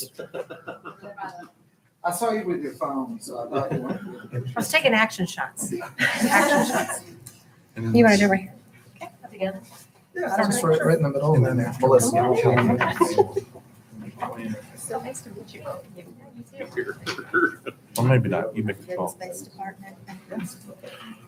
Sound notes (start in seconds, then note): 5.8 laughing; 11.8 mumbled chattering